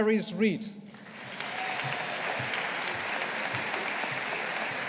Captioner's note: audience applauding